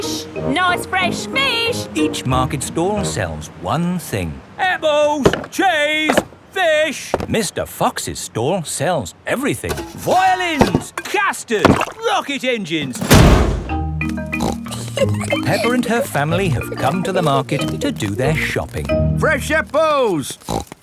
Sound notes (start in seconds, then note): 14.3 snorts and giggles